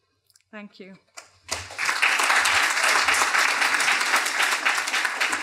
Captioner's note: applause